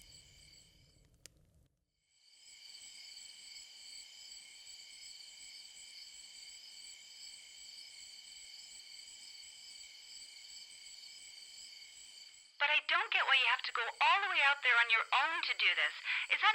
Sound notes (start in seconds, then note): 2.3 crickets chirping